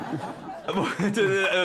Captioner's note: laughing